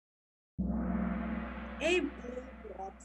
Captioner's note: gong